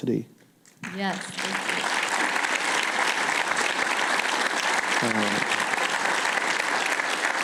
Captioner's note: applause